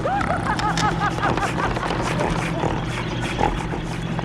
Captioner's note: Buddy snorting